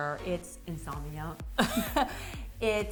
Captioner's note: laughter